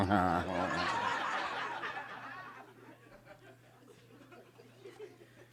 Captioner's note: audience laughing